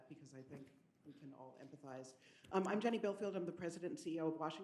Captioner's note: none